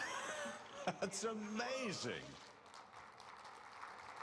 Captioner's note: laughs; applause